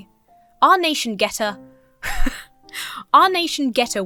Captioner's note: laughs